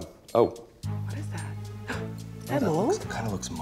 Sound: gasps

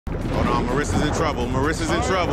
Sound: water splashing

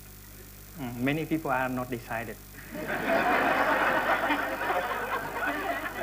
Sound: laughter

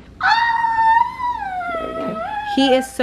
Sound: howling

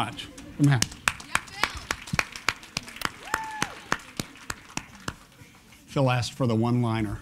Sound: applause

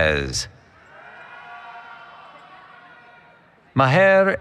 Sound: cheering

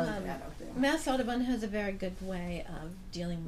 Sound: voiceover

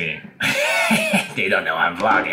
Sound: laughs

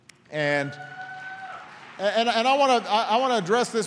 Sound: applause

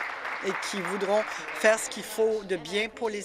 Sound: applause

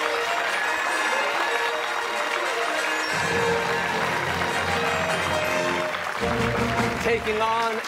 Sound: fanfare plays; cheers and applause

